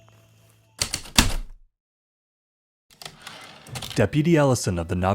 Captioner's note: heavy typewriter keystrokes, return slide